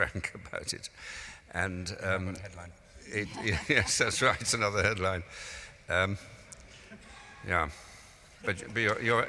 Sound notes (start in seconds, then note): 4.7 laughing